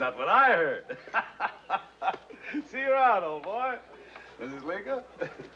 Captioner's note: laughs